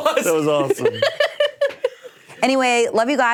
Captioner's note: laughing